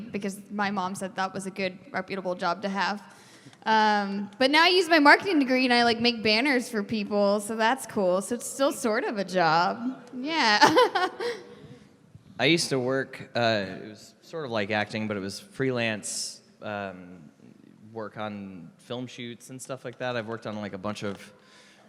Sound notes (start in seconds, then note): 10.6 laughs